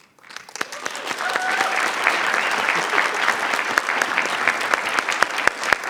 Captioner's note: audience cheering and clapping